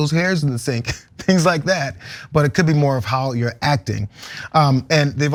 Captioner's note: laugh